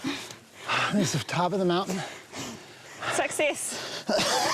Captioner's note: panting; coughing